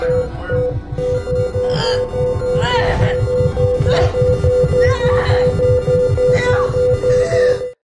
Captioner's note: machines beeping; beeping; Lisa groaning